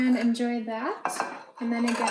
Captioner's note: plate clanging